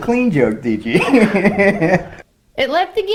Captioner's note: laughs